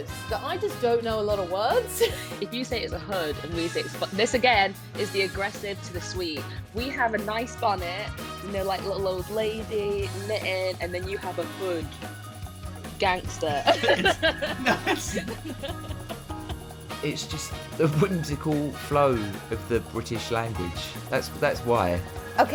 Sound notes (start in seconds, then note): 2.0 laughs; 13.4 laughs